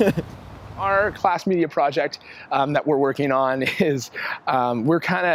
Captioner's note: laughs; laughs